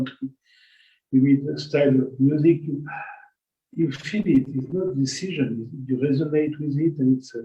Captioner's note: gasp